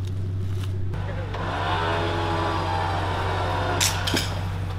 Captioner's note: winch whirring; cable snaps